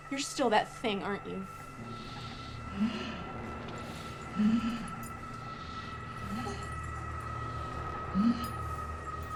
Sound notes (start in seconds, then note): 4.6 demon growling